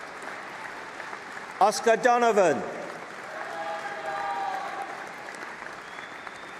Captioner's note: applause and cheering